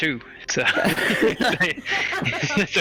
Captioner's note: all laugh